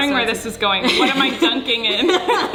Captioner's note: laughing